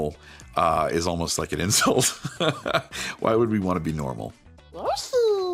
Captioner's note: laughs